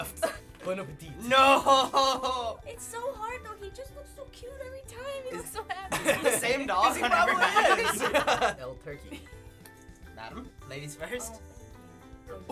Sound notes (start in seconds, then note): 5.8 laughter; 6.9 laughs